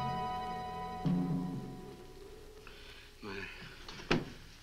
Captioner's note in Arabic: none